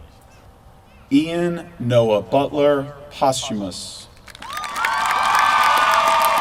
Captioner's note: applause